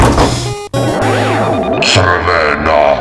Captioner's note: alarm